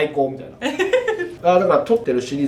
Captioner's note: laughs